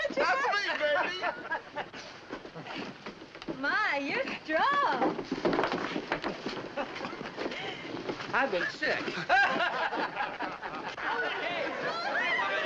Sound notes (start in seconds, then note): 5.3 thump; 8.6 laughter and chatter